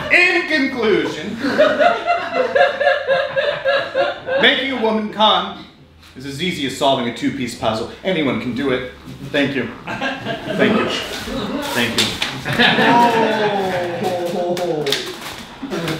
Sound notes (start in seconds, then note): 0.0 audience laughing; 12.5 pies smashing